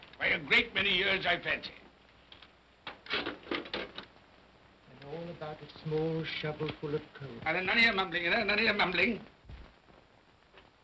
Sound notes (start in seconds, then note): 2.8 coal pellets clatter